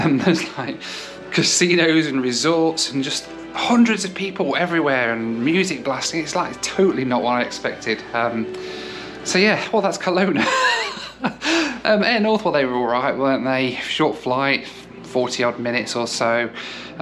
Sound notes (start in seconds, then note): 10.3 laughs